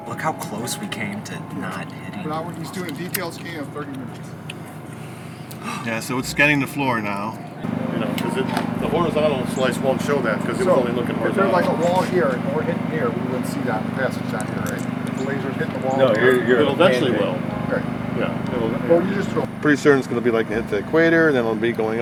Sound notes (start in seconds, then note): 5.0 gasps